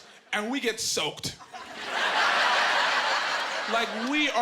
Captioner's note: laughing